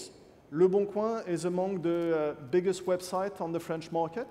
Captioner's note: French